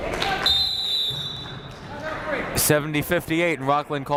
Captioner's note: whistle shrills